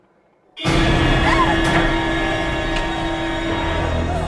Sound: shrieks

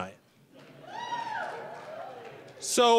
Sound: scattered cheering

